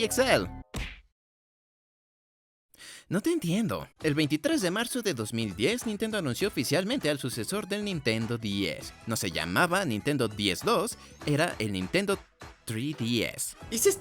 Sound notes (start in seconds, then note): 2.8 sigh